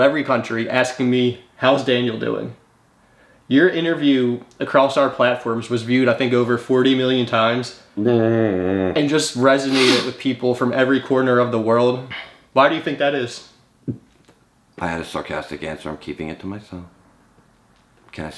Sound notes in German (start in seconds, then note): 7.9 stöhnt